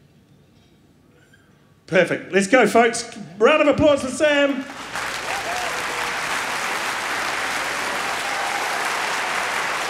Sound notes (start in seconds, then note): 4.5 applause